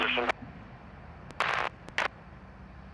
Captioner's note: static